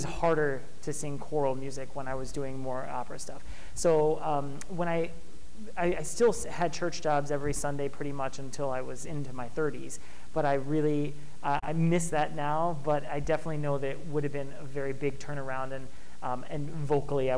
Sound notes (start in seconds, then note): none